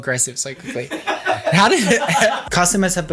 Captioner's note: all laughing